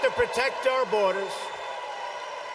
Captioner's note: applause